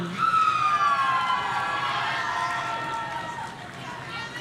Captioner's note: audience cheering